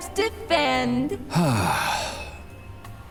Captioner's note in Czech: velký povzdech